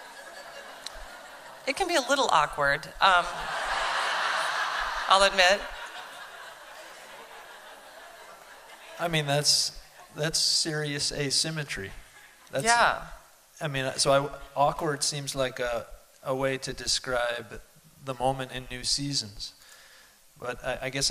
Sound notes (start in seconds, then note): 3.2 laughter